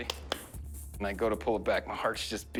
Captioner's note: claps